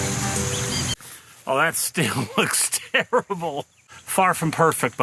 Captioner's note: laughing